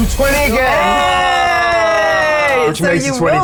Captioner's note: players cheering and clapping